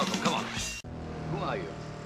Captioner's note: car noise